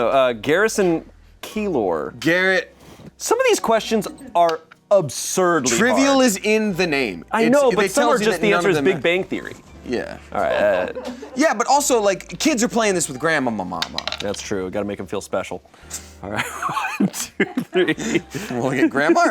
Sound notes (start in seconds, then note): 16.4 laughs